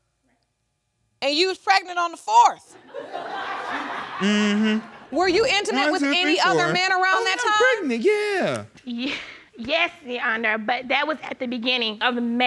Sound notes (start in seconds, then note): 2.8 audience laughing